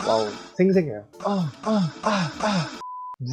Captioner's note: moans